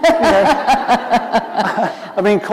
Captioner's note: laughter